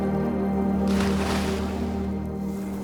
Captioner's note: splash